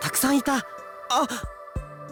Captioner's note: gasp